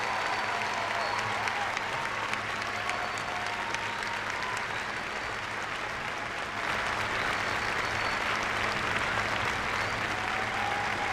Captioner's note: cheers and applause